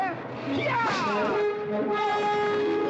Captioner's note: cracking whip; dramatic music